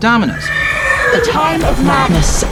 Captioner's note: horse neighing